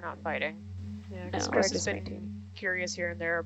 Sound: group chatting

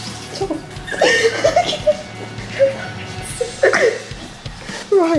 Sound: laughs

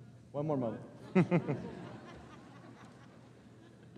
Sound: group laughs

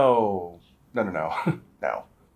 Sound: chuckles

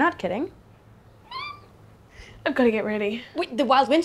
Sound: squealing

